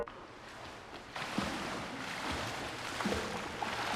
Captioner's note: water splashing